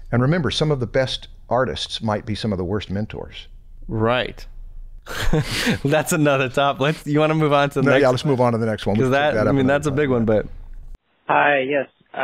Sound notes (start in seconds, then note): 5.0 chuckle